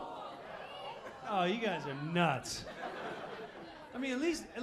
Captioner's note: audience agreeing; audience laughing